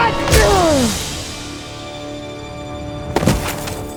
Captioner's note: scream / grunt